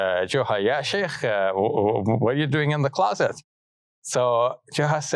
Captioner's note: speaks in Arabic